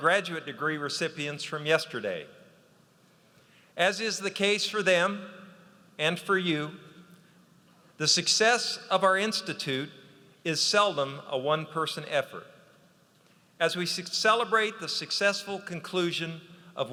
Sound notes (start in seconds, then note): none